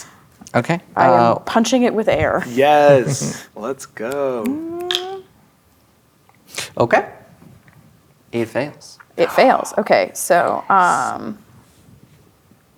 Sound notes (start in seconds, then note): 4.4 snapping fingers